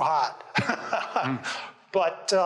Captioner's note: laughs